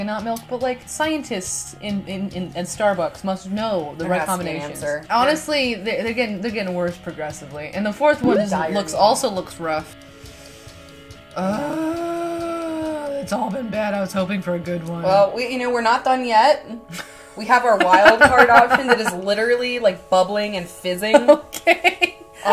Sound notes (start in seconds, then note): 11.4 groans